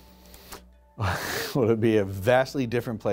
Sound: laughs

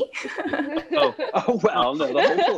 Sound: laughing

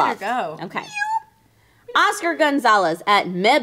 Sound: meows

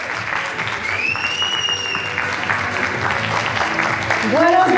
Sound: applause

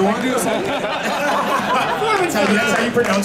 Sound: audience laughing

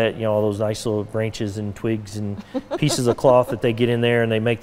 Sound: laughing

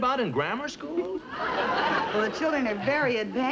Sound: audience laughs

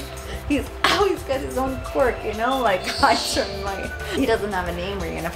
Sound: laughs

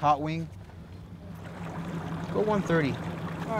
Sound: water lapping

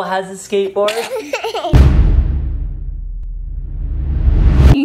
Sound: baby sneezes

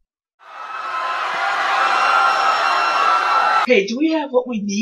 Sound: People screaming in John's head

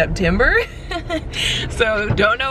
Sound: chuckles nervously

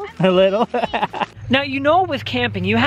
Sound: laughs

